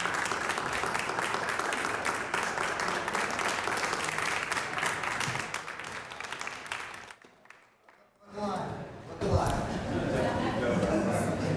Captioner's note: applause